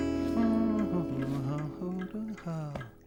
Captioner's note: humming